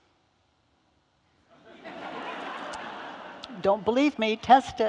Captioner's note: audience laughing